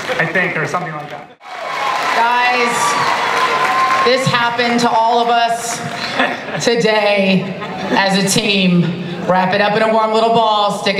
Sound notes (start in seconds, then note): 0.0 audience cheering and applause